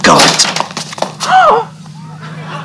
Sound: feet shuffling; lady moans a scream

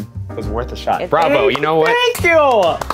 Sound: applause

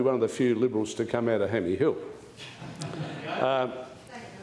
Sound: laughter

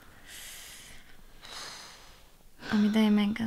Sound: Lucía sighs

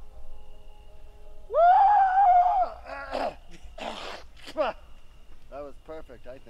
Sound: yells, clears throat

